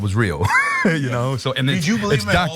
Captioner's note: laugh